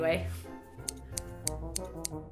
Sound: snip snip snip snip snip

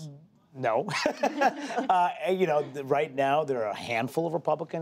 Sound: laughter

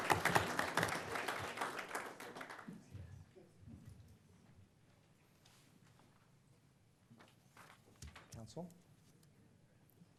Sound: applause

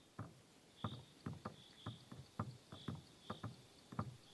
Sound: birds chirping

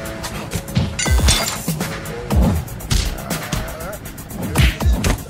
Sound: steel pipe chinks

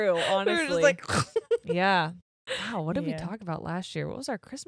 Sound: gags

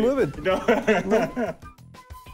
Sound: laughs

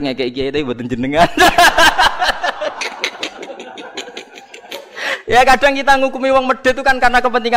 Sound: laughs

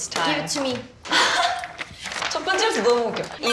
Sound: already laughing

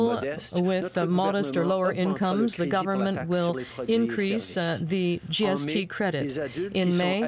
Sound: speaking French

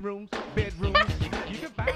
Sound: laughs

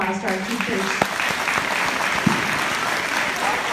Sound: applause

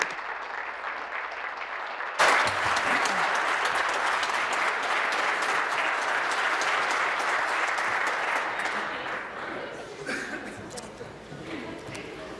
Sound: applause

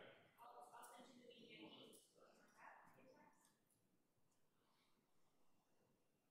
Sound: faintly speaking

